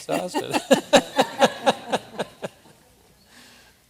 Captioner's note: laughter